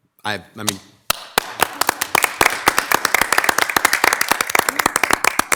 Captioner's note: attendees applauding